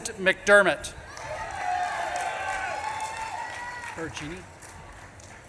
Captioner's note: audience claps and cheers